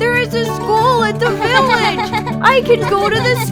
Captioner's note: Acela giggling